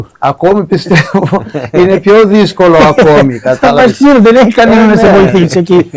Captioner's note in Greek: γέλια